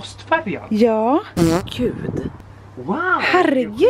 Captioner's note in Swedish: ljudeffekt av prutt